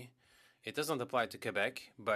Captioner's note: speaking French